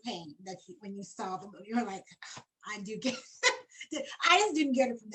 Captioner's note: laughs